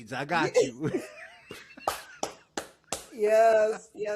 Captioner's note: laughing